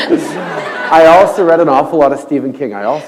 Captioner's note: laughter